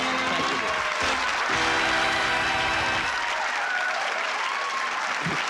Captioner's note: applause